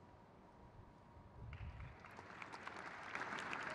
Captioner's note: crowd claps